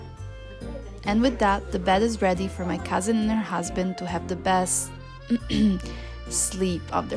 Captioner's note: clears throat